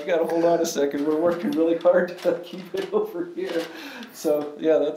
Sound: laughs

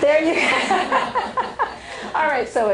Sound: laughter

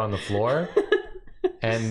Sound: laughing

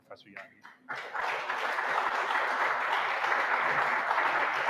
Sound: audience applauding

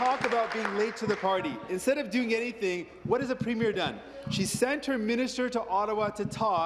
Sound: applause

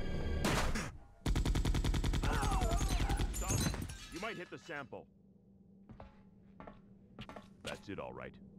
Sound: gunshots

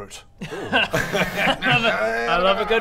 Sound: suggestive giggle

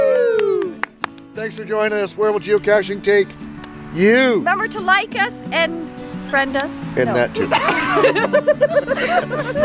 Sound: laughter

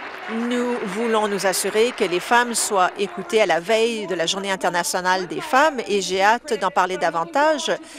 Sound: applause

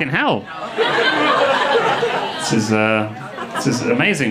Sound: audience laughing

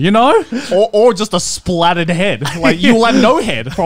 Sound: laughing

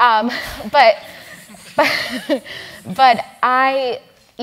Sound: laugh

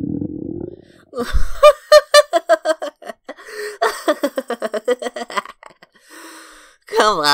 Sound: laughs heartily

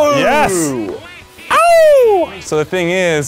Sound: cheers

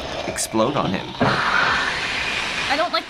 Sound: flames whoosh; bubbles hiss

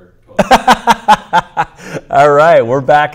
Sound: laughing

